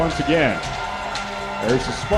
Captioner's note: crowd